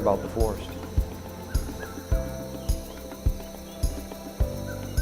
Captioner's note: birds chirping